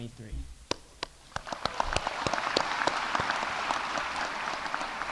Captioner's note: audience applauding